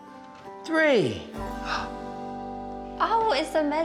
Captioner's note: gasps